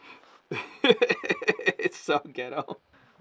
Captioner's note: laughs